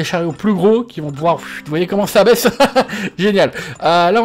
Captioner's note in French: rires